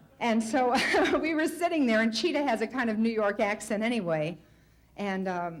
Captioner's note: light laughter; Tomlin laughs